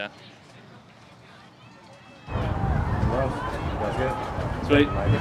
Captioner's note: crowd chattering